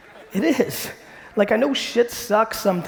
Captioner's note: audience laughing